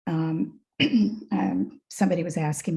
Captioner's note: clears throat